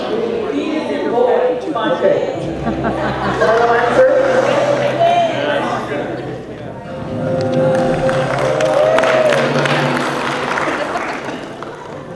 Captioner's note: applause